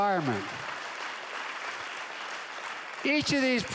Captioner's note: applause